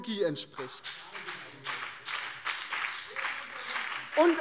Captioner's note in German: Beifall